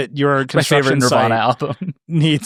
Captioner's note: laughing